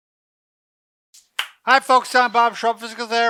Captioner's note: clapping